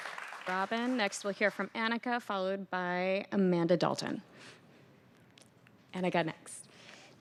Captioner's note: applause